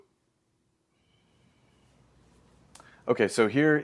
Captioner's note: lips smack; pause